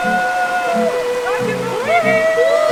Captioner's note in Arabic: صراخ مبتهج